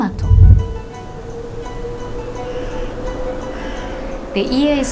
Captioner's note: soft gentle music; crow cawing